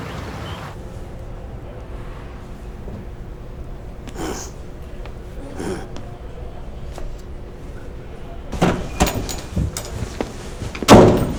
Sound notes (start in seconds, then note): 8.5 door slams shut